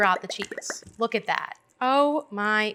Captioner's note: popping sound